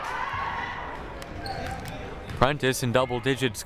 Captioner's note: crowd murmuring